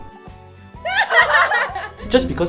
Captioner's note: laughter